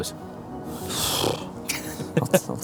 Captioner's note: snorts